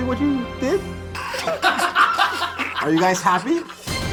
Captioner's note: all laughing